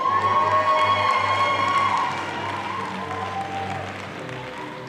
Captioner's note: audience applauding